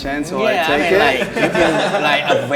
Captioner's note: men laughing